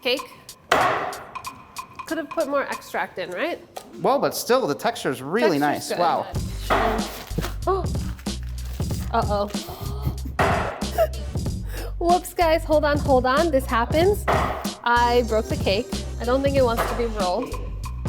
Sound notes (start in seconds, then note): 9.4 gasps; 10.7 chuckles